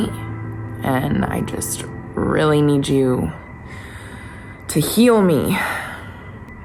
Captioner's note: sighs